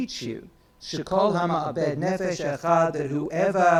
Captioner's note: speaks in foreign language